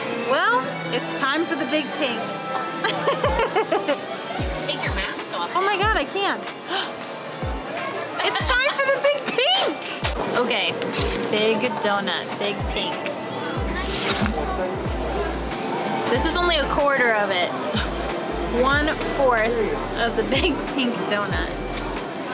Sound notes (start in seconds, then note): 2.8 laughs; 6.7 gasp